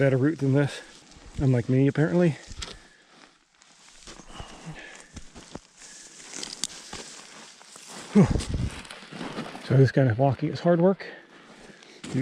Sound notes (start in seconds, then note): 4.0 air whooshing; 4.0 gravel crunching